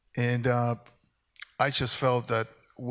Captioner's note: none